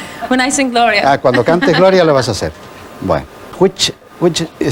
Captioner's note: speaking foreign language